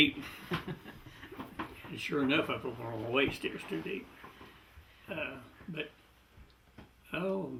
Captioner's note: laughter